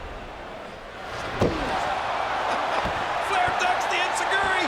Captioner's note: canvas thumps